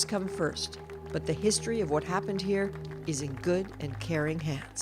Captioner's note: applause